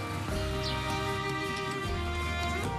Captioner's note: birds chirping